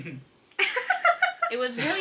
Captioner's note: laughing